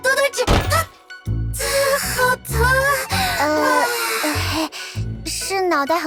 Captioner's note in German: schluchz